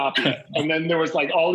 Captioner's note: laughs